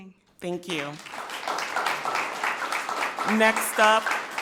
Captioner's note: people clapping